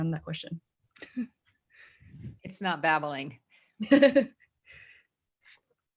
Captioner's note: laughter